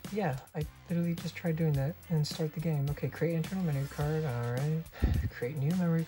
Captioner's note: sighs